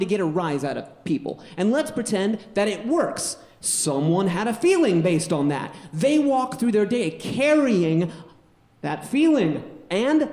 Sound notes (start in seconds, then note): none